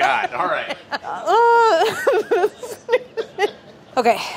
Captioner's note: laughs